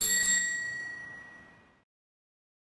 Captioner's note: ringing